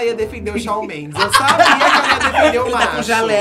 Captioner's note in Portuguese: risos